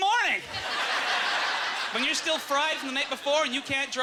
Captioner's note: audience laughter